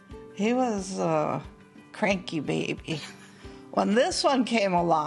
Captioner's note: laughs